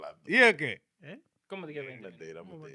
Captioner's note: speaking In Foreign Language